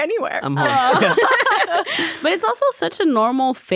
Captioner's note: all laughing